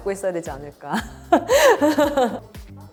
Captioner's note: laughs